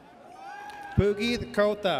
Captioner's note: audience cheers